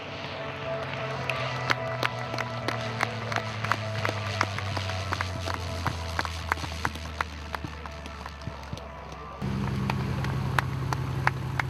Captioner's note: applause